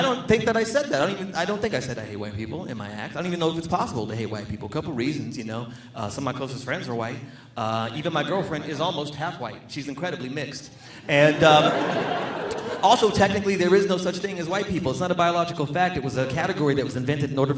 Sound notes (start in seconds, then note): 11.0 audience laughing